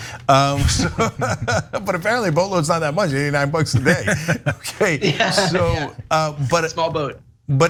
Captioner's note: laugh